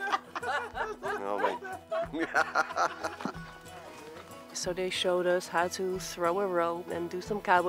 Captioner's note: laugh